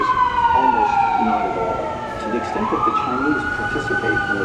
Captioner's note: sirens blaring